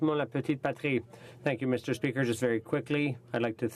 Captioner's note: speaking in french